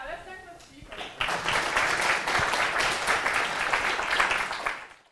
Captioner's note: applause